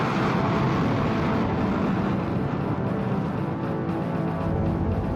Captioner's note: suspenseful music; engines whooshing